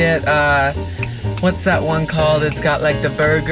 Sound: snaps fingers

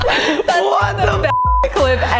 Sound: both laugh; beep

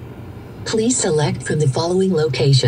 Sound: computerized Voice

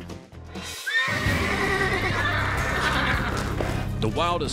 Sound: horse neighing

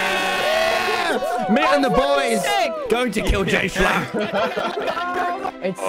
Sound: laughs

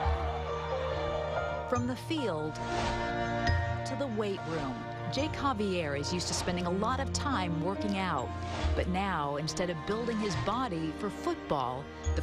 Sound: cheering

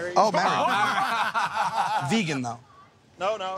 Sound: laughter

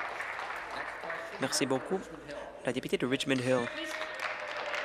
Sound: applause

